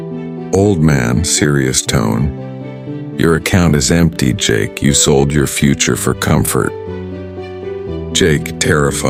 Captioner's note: serious tone